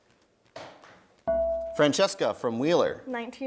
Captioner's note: bell rings